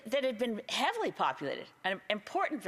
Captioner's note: speaking Indigenous language